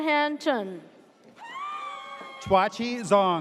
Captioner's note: audience cheers